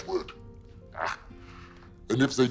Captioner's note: ghost grunts